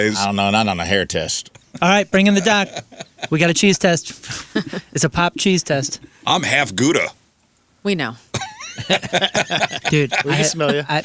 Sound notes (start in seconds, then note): 8.3 laughing